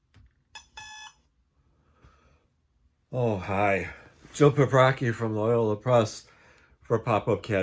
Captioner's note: alarm beeping